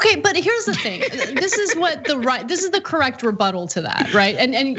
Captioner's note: laugh